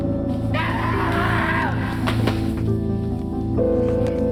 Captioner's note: screaming